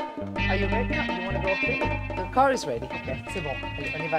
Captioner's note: speaking in English